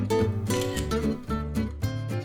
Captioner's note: camera clicking; upbeat music